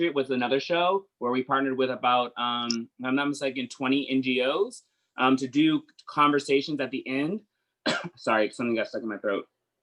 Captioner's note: coughs